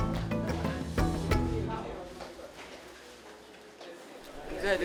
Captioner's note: background chatter